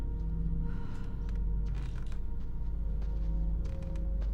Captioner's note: feet pattering